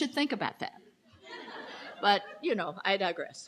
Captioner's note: crowd laughing